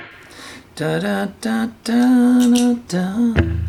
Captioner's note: humming